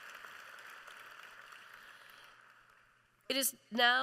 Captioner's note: applause